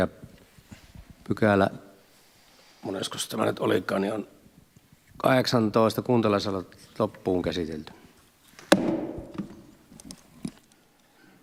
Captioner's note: Nuijan kopautus